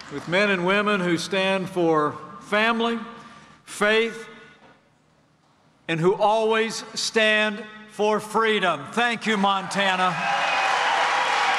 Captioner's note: applause